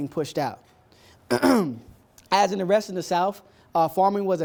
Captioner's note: ahem